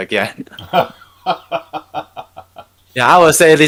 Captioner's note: laughing